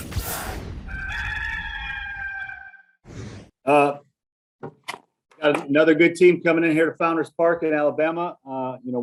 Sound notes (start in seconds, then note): 0.8 rooster crowing